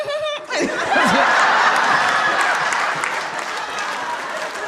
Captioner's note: giggling; audience laughing